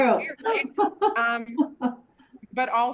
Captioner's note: laughs